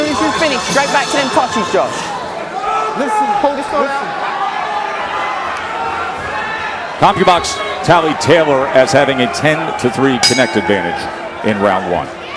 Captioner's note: whistle